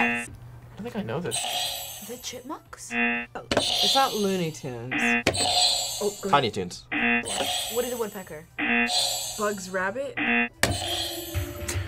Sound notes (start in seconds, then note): 2.8 buzzer rings; 6.8 buzzer rings; 10.9 tense music